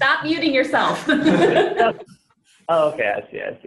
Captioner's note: laughter